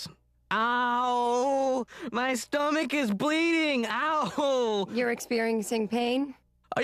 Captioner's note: dramatically